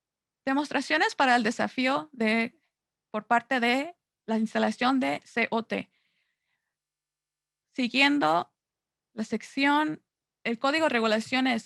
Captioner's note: Spanish